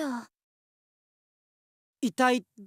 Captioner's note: concerned silence